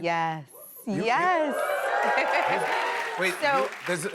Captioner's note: cheers and applause